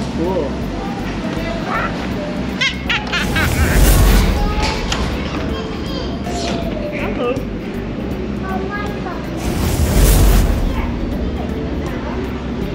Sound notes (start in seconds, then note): 2.8 laughing; 3.2 air whooshes